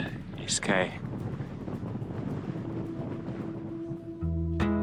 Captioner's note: wind rustling; acoustic folk music